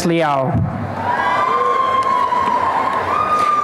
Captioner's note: applause and cheering